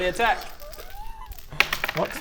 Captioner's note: excited noises